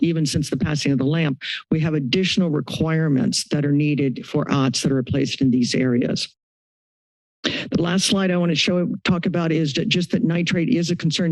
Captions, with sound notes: even since the passing of the LAMP we have additional requirements that are needed for OWTS, that are placed in these areas. [silence] [inhales] The last slide I want to show, talk about is just that nitrate is a concern,